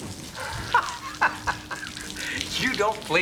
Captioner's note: laughs